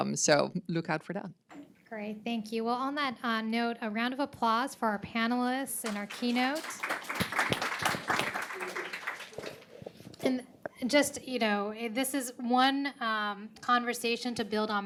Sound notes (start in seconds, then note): 5.8 audience applauds